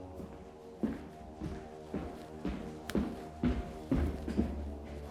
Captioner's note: footsteps thudding